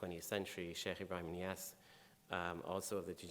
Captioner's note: speaking in foreign language